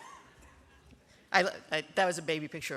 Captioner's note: laughter